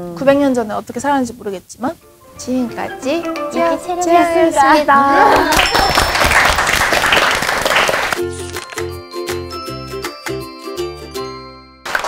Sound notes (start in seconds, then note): 5.3 claps